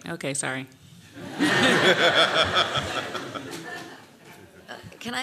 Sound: laughter

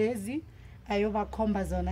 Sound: speaking in Ndebele

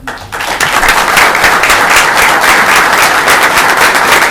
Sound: people applauding

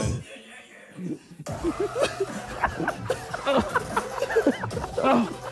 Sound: Sidemen laughing

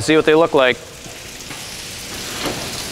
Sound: water pouring

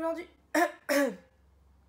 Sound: cough

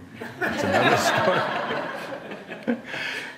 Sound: laughter

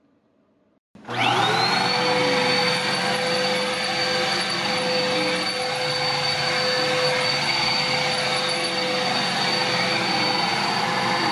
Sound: vacuuming sound

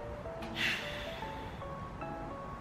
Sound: deep sigh

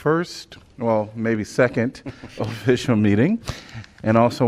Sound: laughter

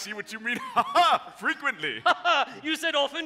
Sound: laughs

